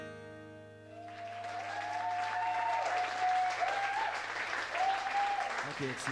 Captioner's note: applause